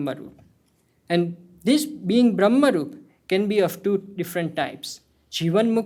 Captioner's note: hindi